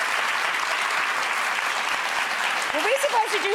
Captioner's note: crowd claps